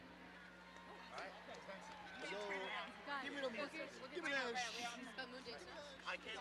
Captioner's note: indistinct overlapping chatter